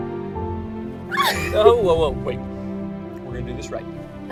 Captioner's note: squeals